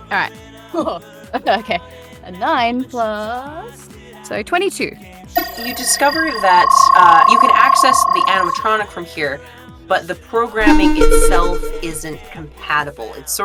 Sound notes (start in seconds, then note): 5.3 electronic trilling; 12.6 beep-beep